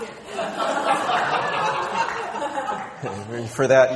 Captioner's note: people laughing